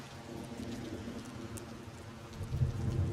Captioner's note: thunder rolls